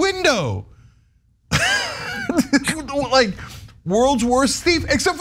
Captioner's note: laugh